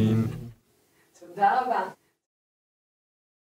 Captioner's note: Hebrew